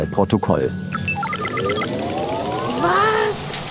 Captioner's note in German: Piepsen, Ladegeräusch